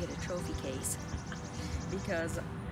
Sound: chuckles

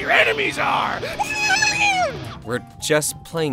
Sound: guitar-riffs with mouth somehow

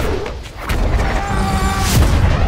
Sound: fighting yells

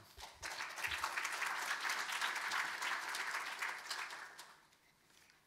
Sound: audience applauding

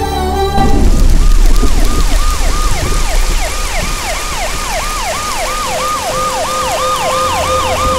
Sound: raining; ambulance siren

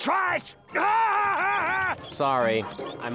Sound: laughing

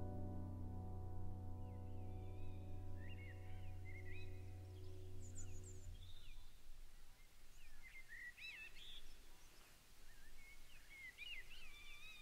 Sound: birdsong to end

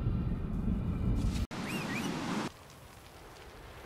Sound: whistle

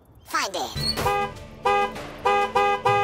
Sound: sound effects play

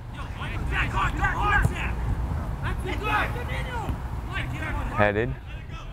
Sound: players talking and yelling

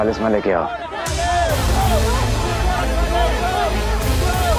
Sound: indistinct chatter

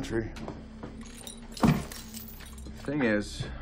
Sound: chains rattling

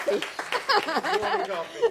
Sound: applause

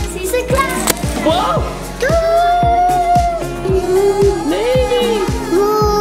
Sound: garland smacks

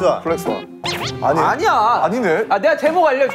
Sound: laugh

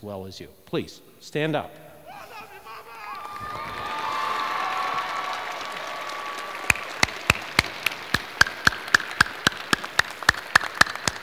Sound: cheers and applause

